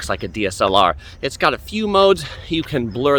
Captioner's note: sighs